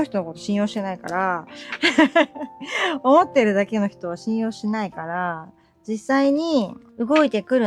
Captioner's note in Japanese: 笑い